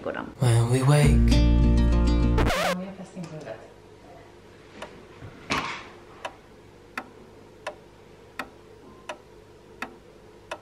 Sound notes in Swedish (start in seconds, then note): 2.4 record scratch; 6.9 ljudeffekt av tickande klockslag